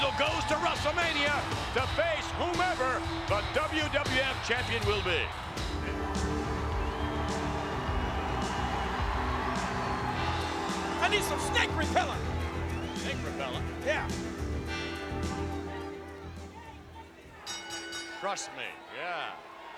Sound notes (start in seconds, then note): 5.5 upbeat music; 14.8 upbeat music; 17.5 bell ringing